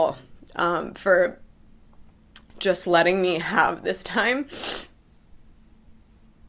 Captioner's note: sniffs